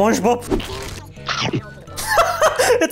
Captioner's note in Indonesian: Nyam!